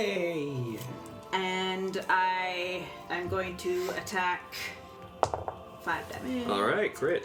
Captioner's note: dice roll